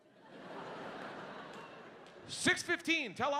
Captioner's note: audience laughing